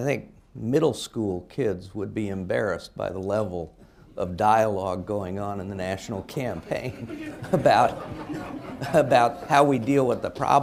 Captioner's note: laughter